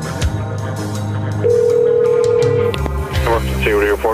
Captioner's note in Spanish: Sonido de teléfono que toca